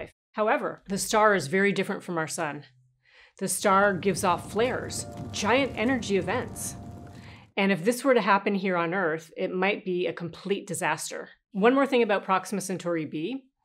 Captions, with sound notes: However, the star is very different from our sun. The star gives off flares, giant energy events. [Burning, crackling] And if this were to happen here on Earth, it might be a complete disaster. One more thing about Proxima Centauri B,